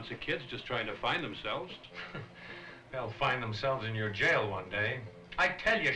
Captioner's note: scoffs